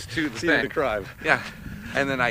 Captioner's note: laughs